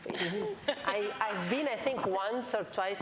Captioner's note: laughter